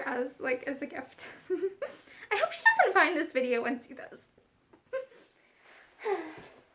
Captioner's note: soft laugh